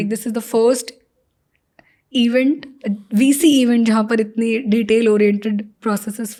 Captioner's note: speaks in Hindi